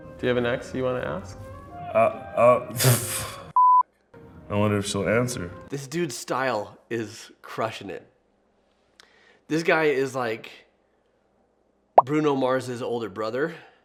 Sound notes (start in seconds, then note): 3.6 beep